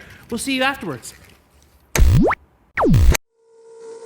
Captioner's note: TV whooshing; tense dramatic music